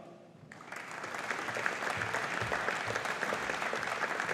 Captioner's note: audience applauding